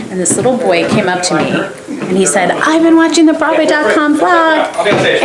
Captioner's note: none